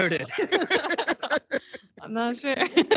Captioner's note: council laughing